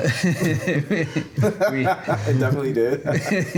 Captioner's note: laughing